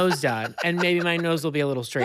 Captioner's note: laughs